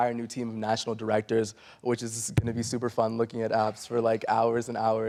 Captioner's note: sarcastically